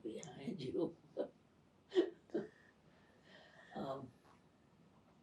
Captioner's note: pauses 6 seconds